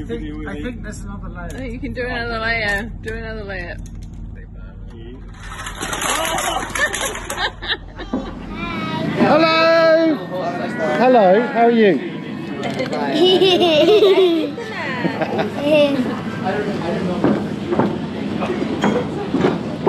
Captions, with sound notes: I think there's another layer! I think you can do another layer! Do another layer! Oooooh! [Loud laughter] Hello, how are you? [Giggle]